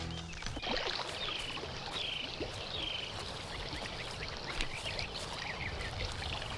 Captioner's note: wildlife chirping; water gurgling softly